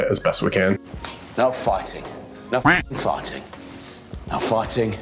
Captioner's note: duck quacks